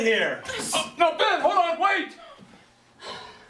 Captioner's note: sigh